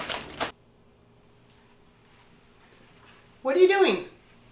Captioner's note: crickets chirping